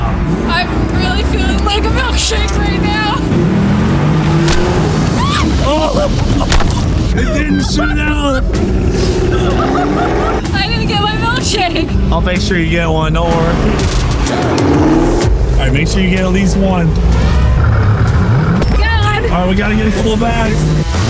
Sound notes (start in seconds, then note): 5.1 both yelling